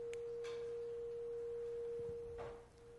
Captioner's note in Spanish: Tono continúa